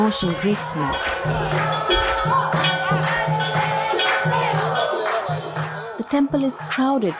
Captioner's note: applausing; bell jingles